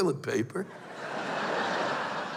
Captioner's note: laughter